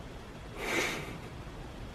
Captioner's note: soft laugh